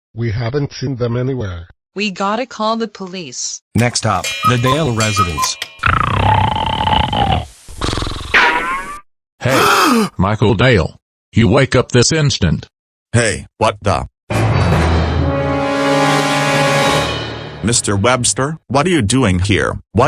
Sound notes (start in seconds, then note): 5.9 snoring; 9.4 gasps; 14.2 dramatic music sting